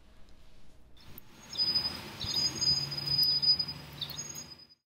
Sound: birds chirping and wind

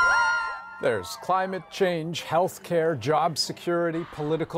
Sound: cheers and Applause

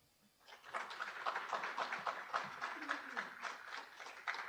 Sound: audience applauding

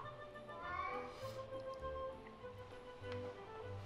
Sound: cat meows

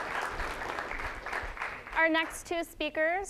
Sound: applause

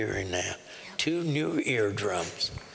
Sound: whispering

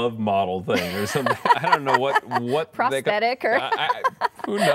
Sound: laughter

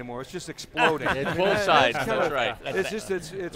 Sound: laughing voices

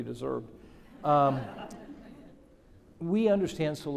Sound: audience laughing

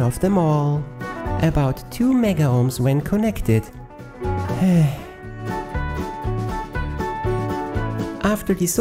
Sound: sigh

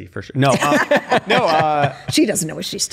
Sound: laughter

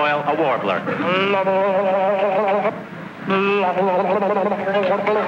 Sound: throat gargling

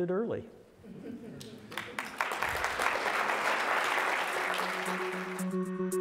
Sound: laughter and applause

